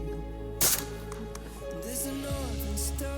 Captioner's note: gun fires